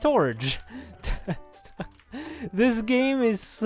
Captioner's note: laughs